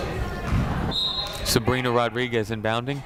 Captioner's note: whistle blows